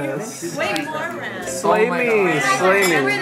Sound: voiceover

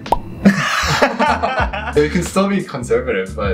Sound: laughing

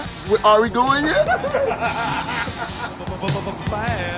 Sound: laughing

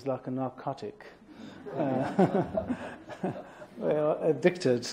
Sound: laughter

